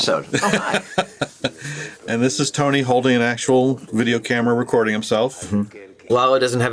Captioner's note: laughs